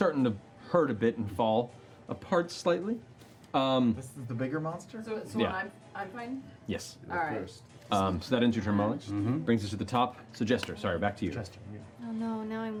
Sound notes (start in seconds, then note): none